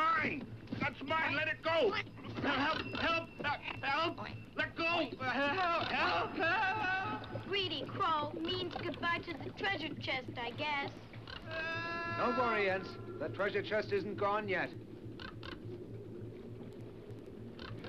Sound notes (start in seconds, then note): 11.2 crow crackles; 15.2 crow crackles